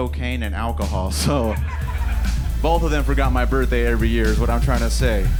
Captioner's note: laughing